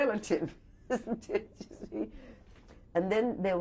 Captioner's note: laughs